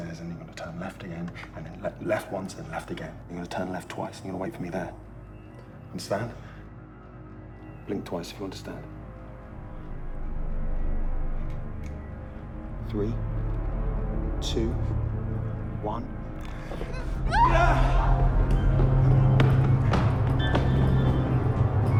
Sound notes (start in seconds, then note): 17.2 Mia screaming; 19.0 dramatic music